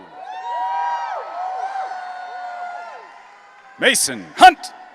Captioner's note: audience cheering